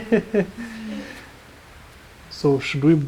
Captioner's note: laughing